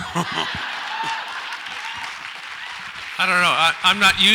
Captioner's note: audience applauds